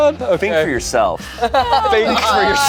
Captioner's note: group laughs